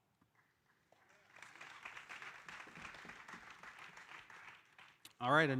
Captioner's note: audience applauding